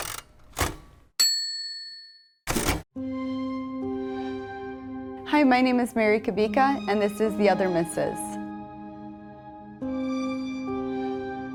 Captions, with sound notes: (typewriter ding) (chilling orchestral music) - Hi, my name is Mary Kubica and this is The Other Mrs.